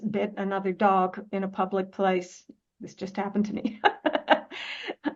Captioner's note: Rires